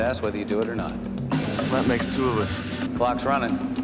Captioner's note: none